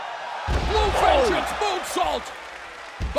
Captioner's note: crowd chatter